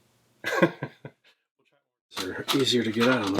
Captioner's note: laughs